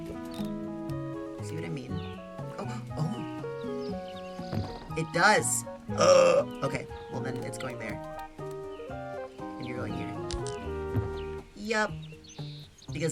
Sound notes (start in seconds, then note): 5.9 gasps